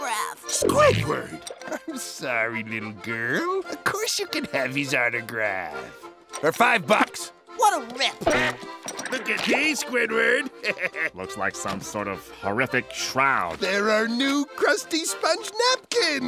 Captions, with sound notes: Squidward! I'm sorry, little girl. Of course you can have his autograph, for five bucks. What a rip! Look at these, Squidward! [chuckles] Looks like some horrific shroud. They're our new Krusty Sponge napkins!